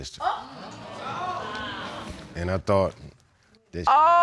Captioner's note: audience exclaims